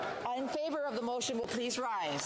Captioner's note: speaking French